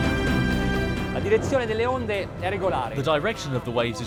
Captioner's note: dramatic music; speaking foreign language